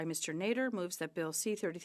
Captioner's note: speaking French